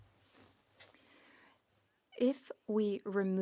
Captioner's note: speaking French